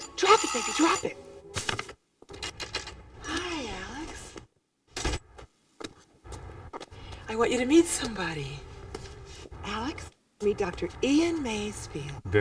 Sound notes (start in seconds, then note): 5.2 door closes